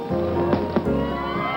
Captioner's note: cracking, popping